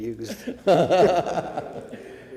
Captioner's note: laughter